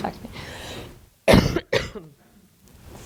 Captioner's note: coughing